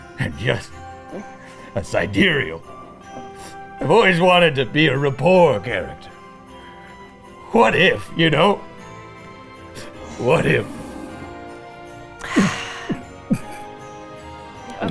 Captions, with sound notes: I am just Sidereal. I've always wanted to be a Rapport Character. What if you know? What if. *Gulping* Okay.